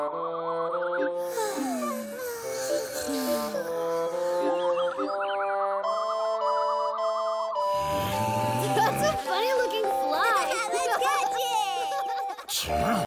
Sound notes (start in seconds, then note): 7.8 growling; 10.5 laughing